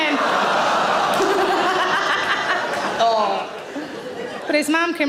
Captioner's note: audience laughing